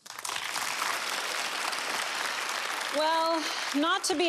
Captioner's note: audience applause